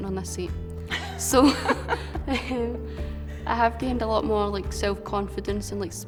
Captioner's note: laughs